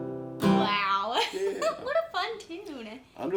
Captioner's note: laughs